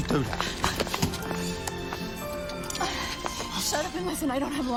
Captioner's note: sirens blaring